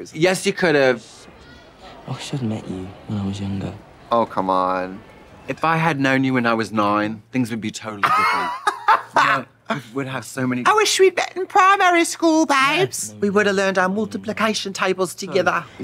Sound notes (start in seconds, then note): 5.5 British accent; 8.0 Trixie laughing; 10.7 British accent